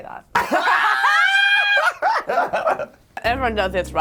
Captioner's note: laughing